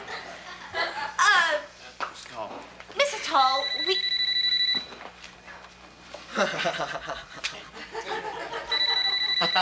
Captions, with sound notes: - Miss Atoll, we- (phone ringing) (George laughing)